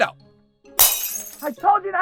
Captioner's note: glass shatters